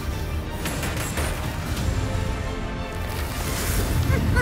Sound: adventurous music; gun fires; clown cackling; blade swishes

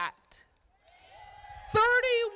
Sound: crowd applauding

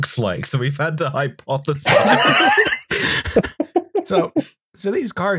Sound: laughter

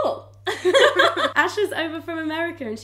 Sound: laughing

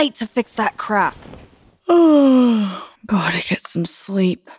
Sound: yawns

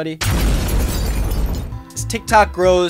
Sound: loud explosion

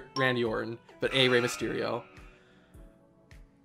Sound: countdown timer beeps

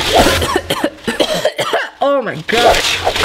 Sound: coughs

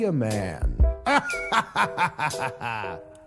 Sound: laughter

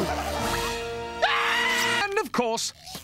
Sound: screaming in agony

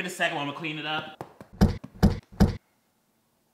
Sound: punching sounds

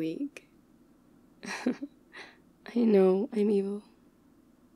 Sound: laughs

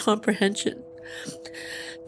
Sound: sniffling

